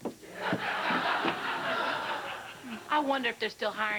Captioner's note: laughter